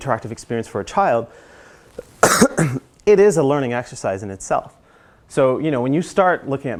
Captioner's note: cough